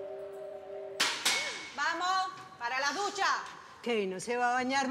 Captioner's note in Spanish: golpes en la reja